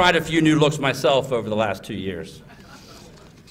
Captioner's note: laughter